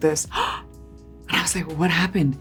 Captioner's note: Priyanka gasps